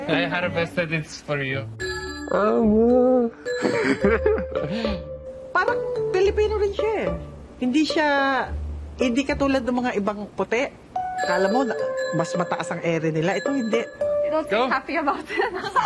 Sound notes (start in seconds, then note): 3.6 chuckles